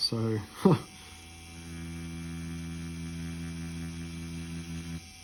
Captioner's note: machine whirring